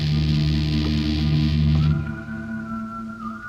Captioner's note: man whistling